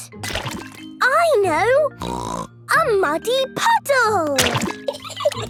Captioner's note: laughing